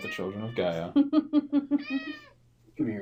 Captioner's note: laughs